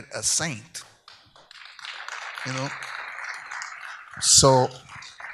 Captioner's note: audience applauds